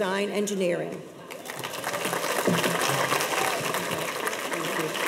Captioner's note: audience applauds